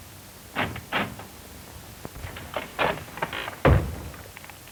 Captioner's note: door opens